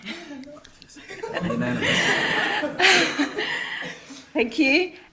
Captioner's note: councillors chuckling